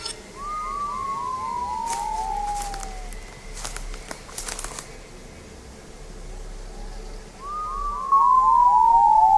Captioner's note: strange whistling